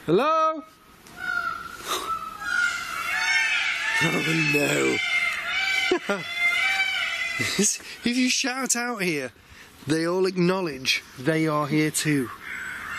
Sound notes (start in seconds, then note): 1.1 peacocks squawking; 5.2 laughs; 12.8 peacocks squawking